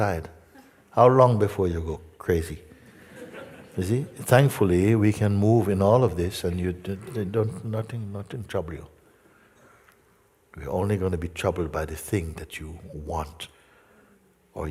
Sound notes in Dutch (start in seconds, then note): 2.8 gelach